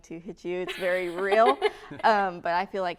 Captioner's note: laughter